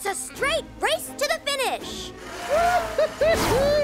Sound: wheels whirring

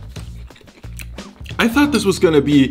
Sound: chewing

